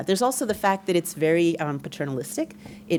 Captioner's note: none